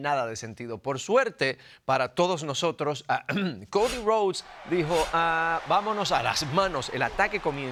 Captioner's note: cough